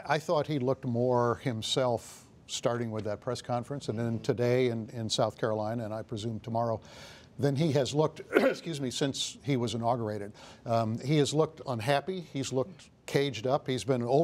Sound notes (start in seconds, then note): 8.2 coughs